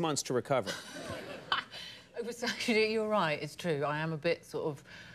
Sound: laughs

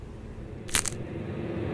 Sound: snap

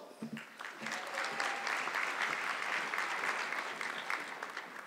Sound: audience clapping

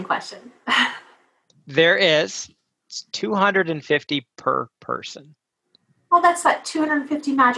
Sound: laugh

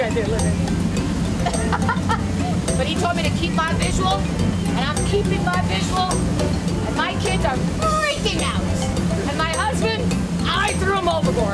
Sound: laughing

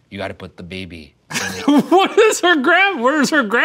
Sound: laughing

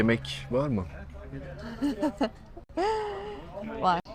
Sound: laughter

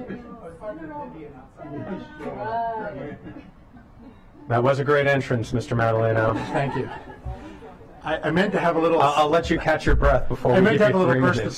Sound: laughter

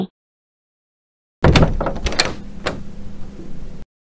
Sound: door opening

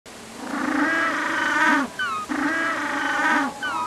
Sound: penguins braying

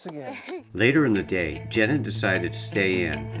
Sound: laughs

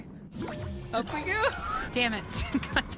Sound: laugh

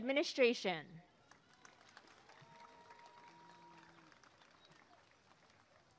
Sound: applause and cheering

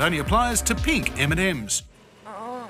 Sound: groans

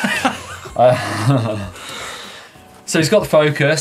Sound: laughs

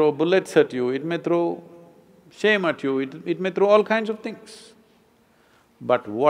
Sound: none

